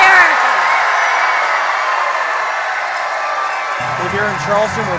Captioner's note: audience applause